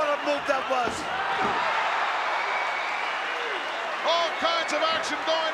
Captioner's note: crowd cheering